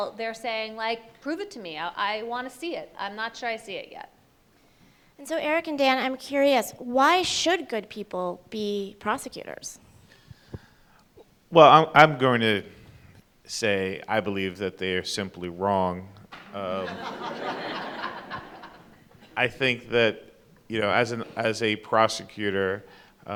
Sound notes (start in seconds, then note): 16.5 audience laughs